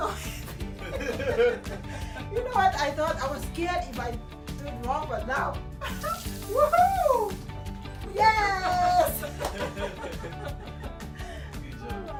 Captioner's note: customer excitement